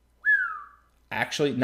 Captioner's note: whistling